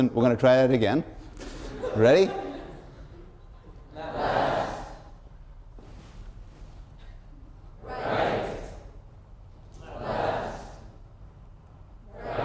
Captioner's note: laughter; audience response